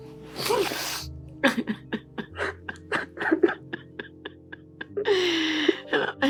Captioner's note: both cry deeply